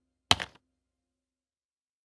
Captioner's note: keyboard clicks